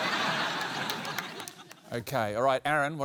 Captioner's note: laughter